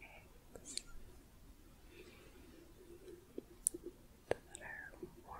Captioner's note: gentle shuffling, tapping